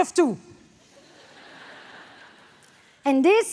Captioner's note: audience laughs